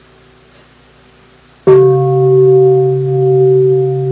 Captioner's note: bell